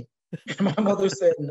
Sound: laugh

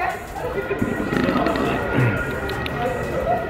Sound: burps

